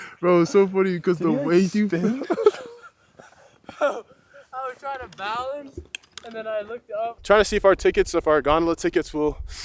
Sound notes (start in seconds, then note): 3.0 laugh